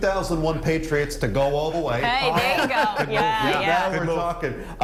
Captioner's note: laughter